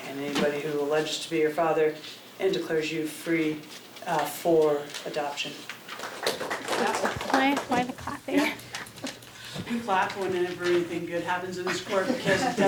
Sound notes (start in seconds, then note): 5.9 people applauding